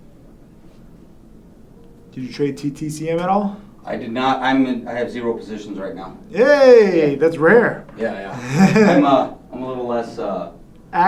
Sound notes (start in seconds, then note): 8.2 laughs